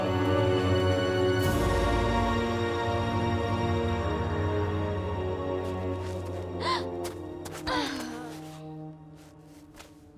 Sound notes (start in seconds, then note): 6.6 gasping; 7.4 grunting